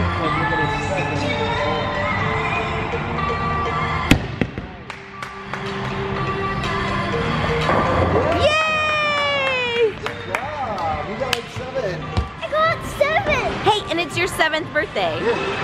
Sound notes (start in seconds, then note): 4.8 claps